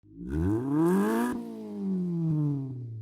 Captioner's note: engine revs